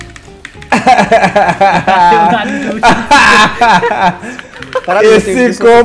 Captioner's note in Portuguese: risos